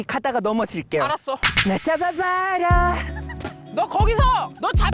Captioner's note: restart sound effect; romantic background music